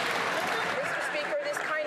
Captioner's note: some Applause